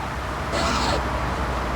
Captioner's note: horn honking; yelling